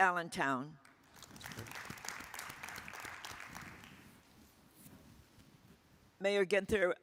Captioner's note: attendees applauding